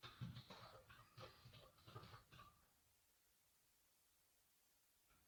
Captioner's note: keyboard typing